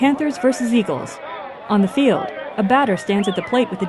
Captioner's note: fan whistling